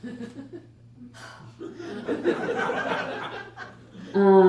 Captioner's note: dramatic sigh